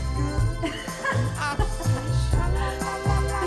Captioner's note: laughing